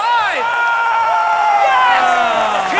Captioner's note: cheering